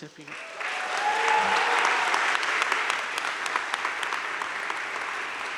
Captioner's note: crowd cheering and applauding